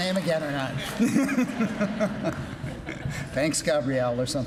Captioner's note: laughing